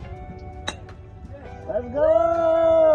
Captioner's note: club hitting